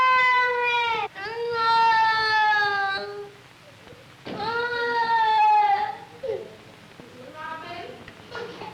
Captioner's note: crying